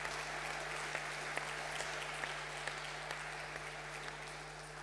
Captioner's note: attendees applauding